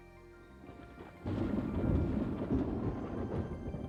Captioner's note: thunder